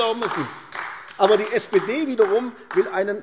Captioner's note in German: Beifall AfD